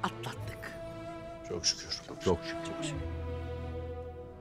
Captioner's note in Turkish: Hep bir ağızdan